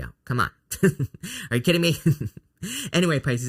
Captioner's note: laughs